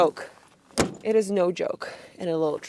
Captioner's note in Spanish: golpes en la puerta del auto